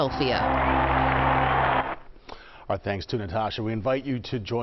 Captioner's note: cheers and applause